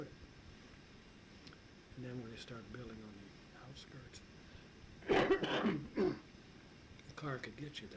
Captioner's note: coughs